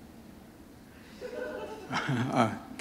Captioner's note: chuckle